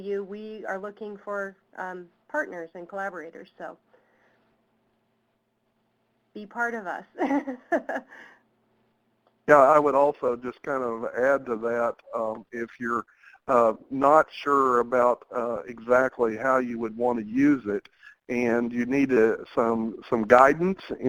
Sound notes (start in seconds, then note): 7.2 laughs; 9.8 voiceover